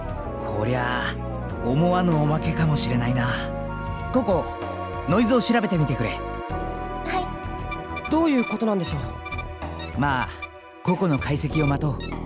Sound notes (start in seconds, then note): none